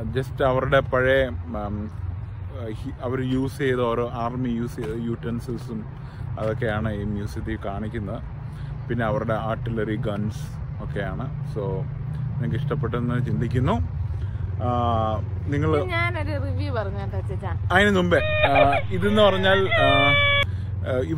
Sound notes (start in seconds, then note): 18.2 crying sound